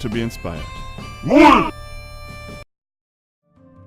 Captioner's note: dragon Shout